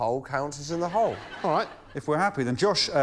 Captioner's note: laughter